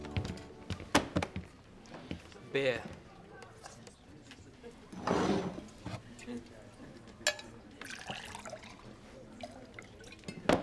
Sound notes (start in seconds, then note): 1.4 hand slapping; 4.9 cup sliding; 7.8 liquid pouring; 10.4 glass thuds